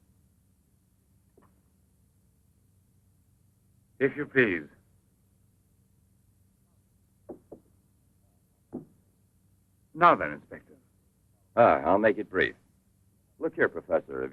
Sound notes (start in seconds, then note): none